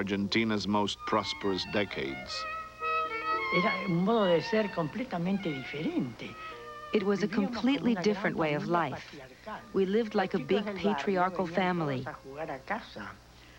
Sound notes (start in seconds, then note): 3.3 speaking Spanish